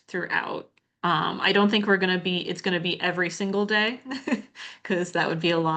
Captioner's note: chuckles